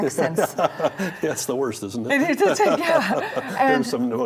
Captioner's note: laughs